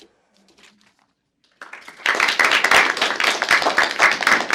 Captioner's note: applause